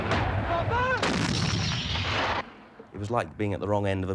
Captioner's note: solder shouting